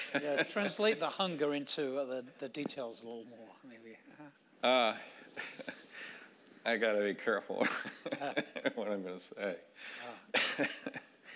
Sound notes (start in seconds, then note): 5.4 laughing